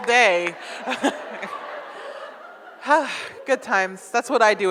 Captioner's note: audience laughs